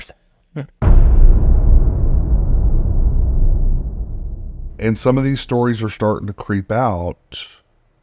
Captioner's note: dramatic boom